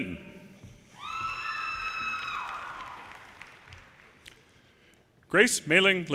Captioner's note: audience cheers and applause